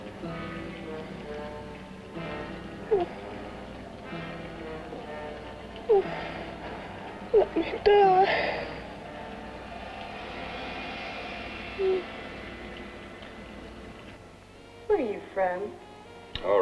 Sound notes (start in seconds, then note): 0.2 liquids bubbling; 0.2 ominous music; 9.3 liquids bubbling; 9.3 ominous music